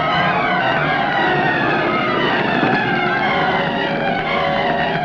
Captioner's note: flames roaring